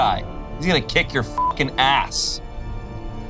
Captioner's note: beep; dramatic music